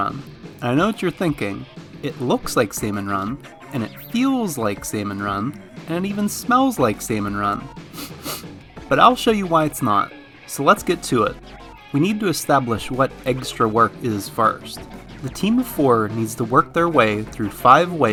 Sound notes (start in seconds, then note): 7.8 sniff sniff